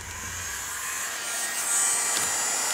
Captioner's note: föhn noises